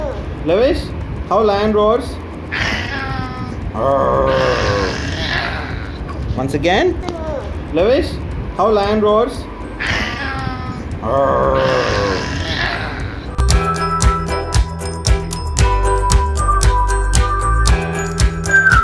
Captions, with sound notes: cute baby lavesh , show how lion roars? cute baby lavesh , show how lion roars? cute baby lavesh , show how lion roars? lavesh cute baby, show me how lion's roar lion roaring (cute baby mimic lions roaring) show me how lion's roar ions roars